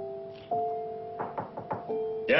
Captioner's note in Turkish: Kapı çalıyor